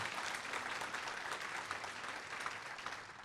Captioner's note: applause